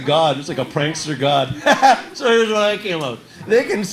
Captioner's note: laughs